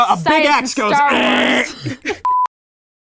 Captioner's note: growls